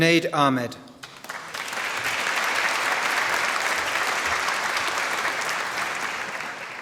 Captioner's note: applause